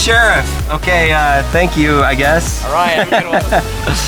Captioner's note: laughs